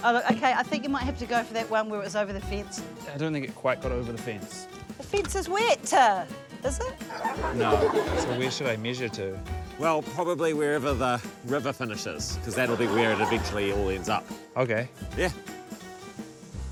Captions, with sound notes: - OK. I think you might have to go for that one where it was over the fence. - I don't think it quite got over the fence. - The fence is wet! - Is it? - (LAUGHTER) - No. - So, where should I measure to? - Well, probably wherever the river finishes, cos that that'll be where it eventually all ends up. - OK. - Yeah.